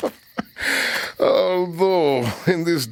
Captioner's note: chuckles